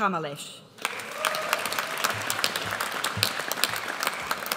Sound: audience applauds

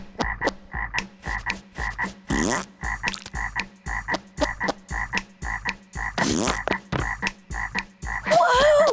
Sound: croaking, snapping, fart noises, scratching

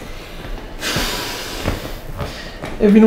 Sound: sigh

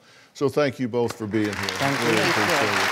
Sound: audience applauding

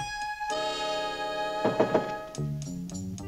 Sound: knock on door

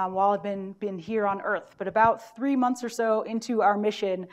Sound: none

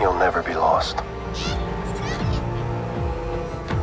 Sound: tree Lizards screeching

